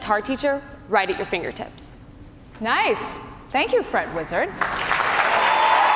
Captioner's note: cheers and applause